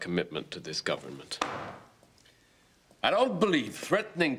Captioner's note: hand slams